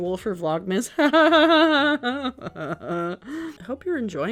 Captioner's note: laughing